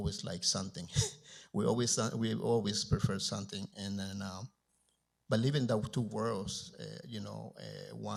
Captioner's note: chuckles